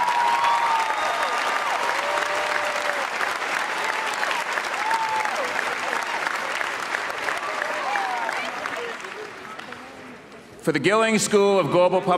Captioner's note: cheers and applause